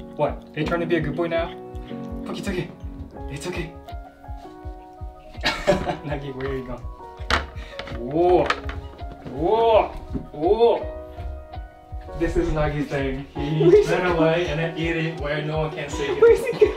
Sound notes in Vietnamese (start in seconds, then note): 5.3 cười